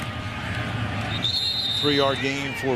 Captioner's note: whistle blows